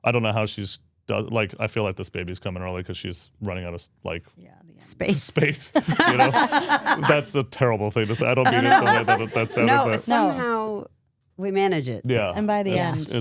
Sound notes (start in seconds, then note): 7.3 all laughing